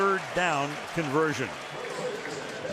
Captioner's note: cheering